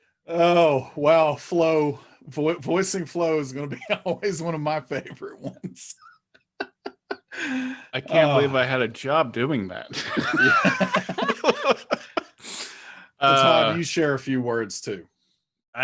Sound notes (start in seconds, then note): 6.9 laughing; 9.8 all laughing